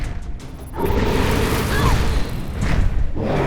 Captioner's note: Brax roars; harpy screams; Santra shrieks